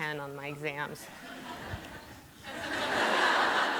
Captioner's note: laughter